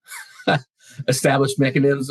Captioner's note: laughing